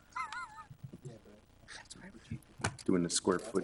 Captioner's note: laughs